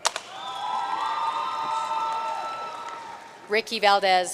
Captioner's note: audience cheering and applauding